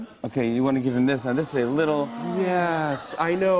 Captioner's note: audience "Awws"